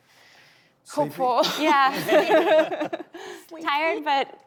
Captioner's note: laughs